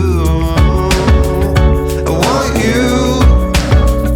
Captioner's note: nervous